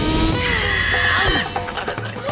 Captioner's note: screeching